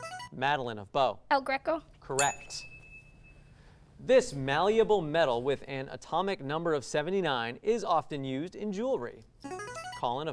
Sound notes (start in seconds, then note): 2.1 ding sound; 9.4 ring-in sound